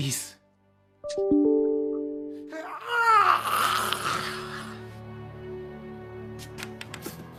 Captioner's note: phone beeping; man yelling